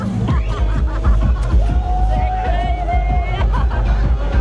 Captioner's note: laughing